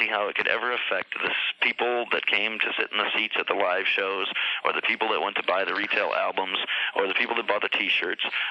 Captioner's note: none